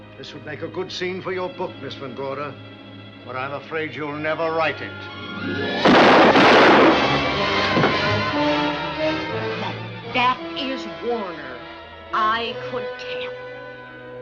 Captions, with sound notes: This would make a good scene for your book, Ms. Van Gorder. But I'm afraid you'll never write it. [GUNSHOTS] That is Warner. I could tell.